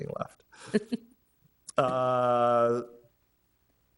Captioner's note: laughing